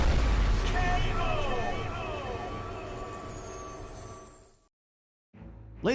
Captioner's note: echoes